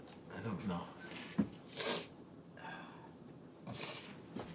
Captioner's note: Dawit sniffs and gasps; sniffs